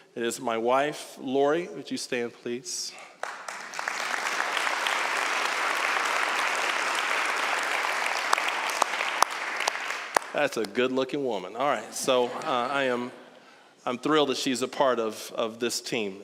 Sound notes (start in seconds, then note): 3.1 applause; 12.0 audience laughing